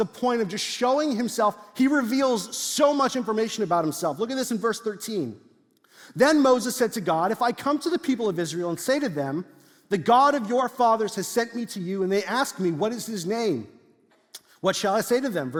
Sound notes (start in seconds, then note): none